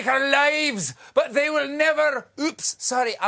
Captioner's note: scottish accent